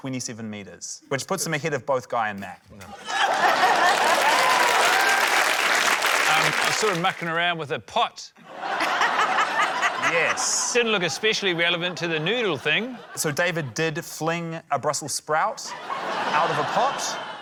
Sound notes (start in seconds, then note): 3.0 cheering, applause; 8.4 laughter